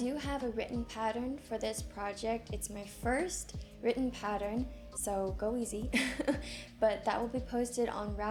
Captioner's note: chuckles